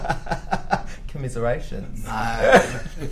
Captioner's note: laughter